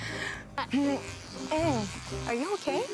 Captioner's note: vibrating sound